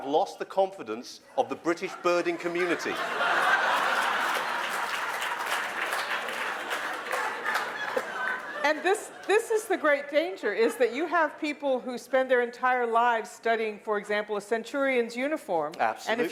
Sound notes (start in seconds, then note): 1.8 laughter